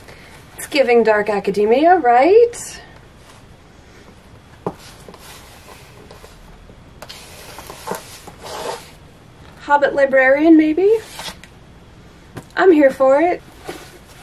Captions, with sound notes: It's giving Dark Academia, right? *more shoe noises* Hobbit Librarian, maybe? I'm here for it.